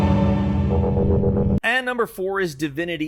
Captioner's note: electrical warbling